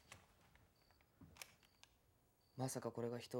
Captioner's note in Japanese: ボタンを押す音